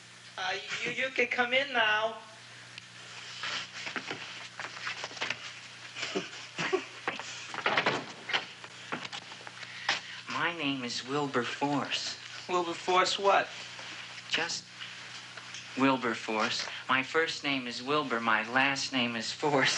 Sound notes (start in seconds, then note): 5.9 giggling